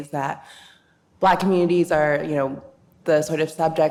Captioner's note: none